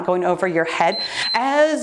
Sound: timer beeps

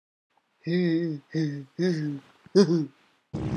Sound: goofy Giggle

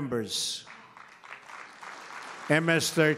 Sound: applause

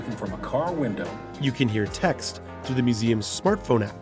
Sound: voiceover

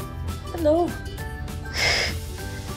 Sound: snickers

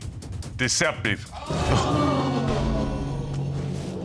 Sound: gasps; audience gasps

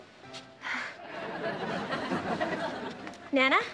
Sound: audience laughing

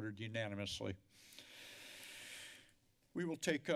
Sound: deep breathe

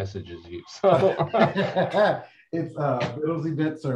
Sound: laughter

